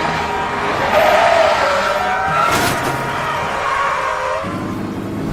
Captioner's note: tire screeching, horn honking